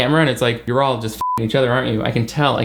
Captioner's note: beep